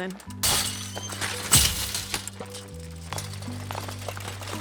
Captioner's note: fence clatters